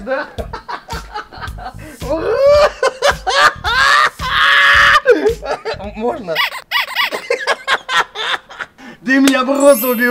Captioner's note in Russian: смех